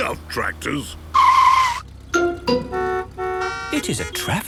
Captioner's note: tires screeching, horns honking